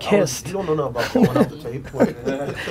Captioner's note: laughing